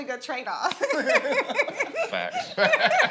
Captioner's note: all laughing